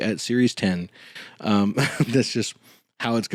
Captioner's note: small laugh